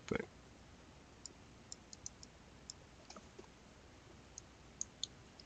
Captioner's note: mouse clicking